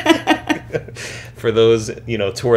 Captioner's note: laughter